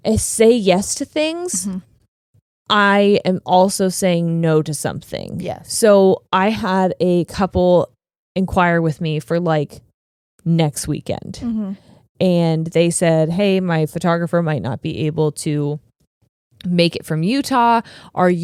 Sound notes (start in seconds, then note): none